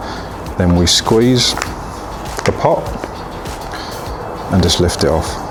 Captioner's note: pot crackling